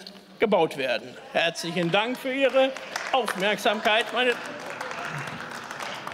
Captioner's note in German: Beifall